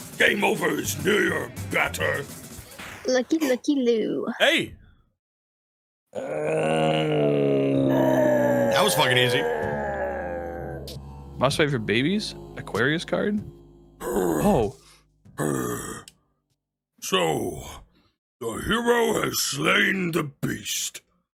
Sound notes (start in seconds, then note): 6.1 groan